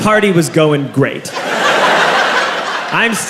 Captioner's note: crowd laughs